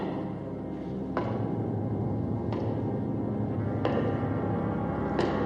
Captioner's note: footsteps continue